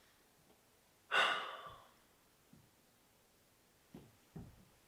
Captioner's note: Jacob sighs